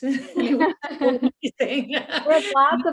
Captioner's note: both laughing